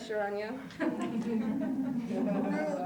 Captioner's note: laughter